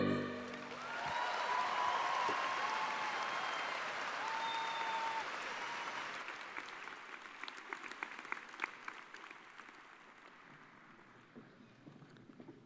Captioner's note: cheers and applause